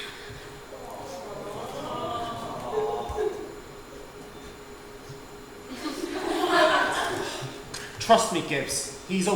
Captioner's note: audience awws; audience laughs